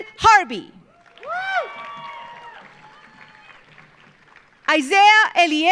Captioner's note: audience cheering; audience applauding